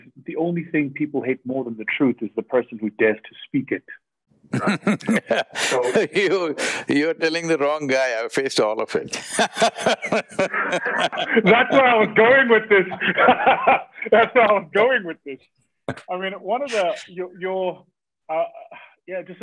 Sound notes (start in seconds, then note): 4.5 Sadhguru laughs; 9.0 both laugh; 13.5 laughs